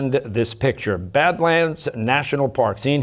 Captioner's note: none